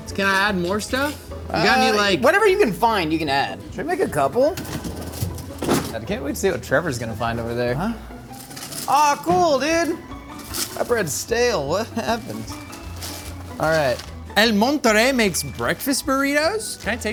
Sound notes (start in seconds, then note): 3.9 freezer drawer rattling; 8.2 wrapper rustling